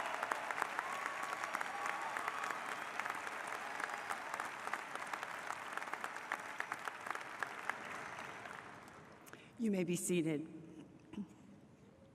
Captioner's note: applause